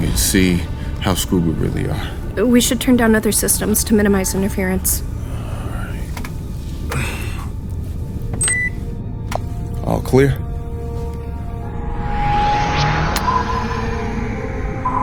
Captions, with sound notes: and see how screwed we really are. - We should turn down other systems to minimize interference. (beeping) - All clear. (air whooshing)